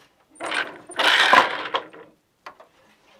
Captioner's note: noise of shuttle moving